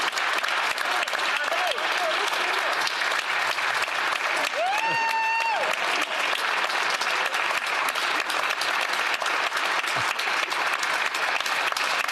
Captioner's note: applause